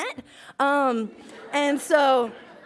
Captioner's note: laughs